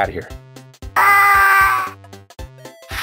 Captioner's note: screams